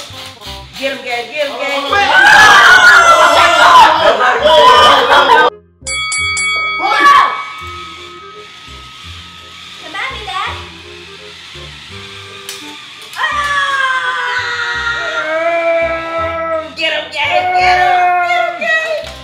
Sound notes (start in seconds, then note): 1.9 shouts; 5.8 dings; 7.6 robots whirring; 13.1 shouts; 19.0 shouts